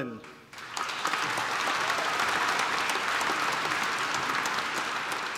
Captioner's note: applause